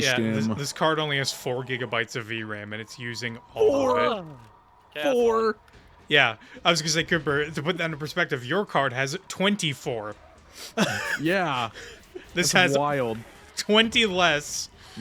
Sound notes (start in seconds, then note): 10.7 laughter